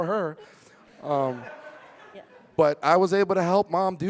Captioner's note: audience laughing